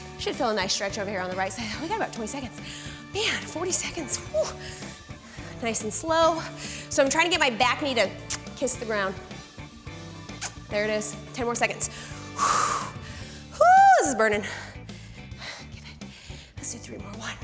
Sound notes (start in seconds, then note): 10.3 smooching; 11.9 exhales